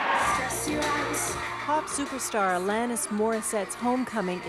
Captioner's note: cheers